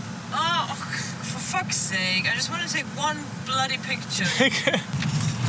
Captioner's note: laughs